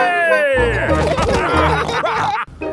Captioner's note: all laughing